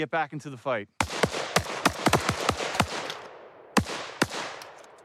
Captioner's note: shots firing